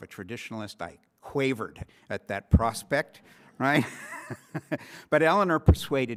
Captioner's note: chuckles